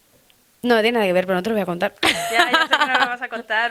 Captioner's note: laughs